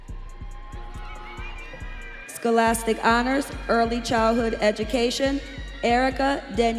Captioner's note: students cheering